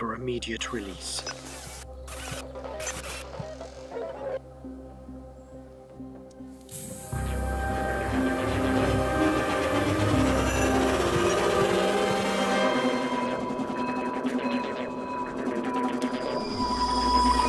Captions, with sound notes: for immediate release. (spraying sound) (ominous music)